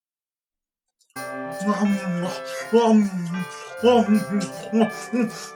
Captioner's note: ravenous eating; christmas music plays